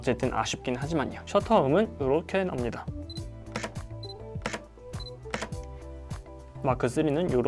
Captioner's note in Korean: a7c 셔터 소리